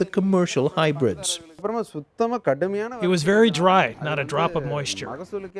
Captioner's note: through translator